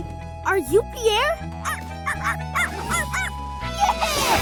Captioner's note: barking